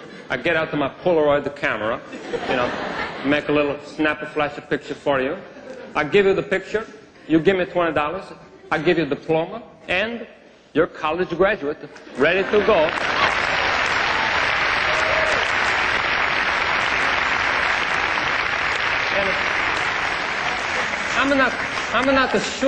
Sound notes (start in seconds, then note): 14.2 applause